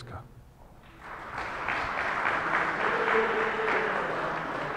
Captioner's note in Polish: oklaski